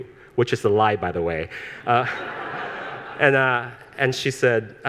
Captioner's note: all laughing